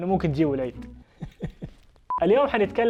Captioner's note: laughs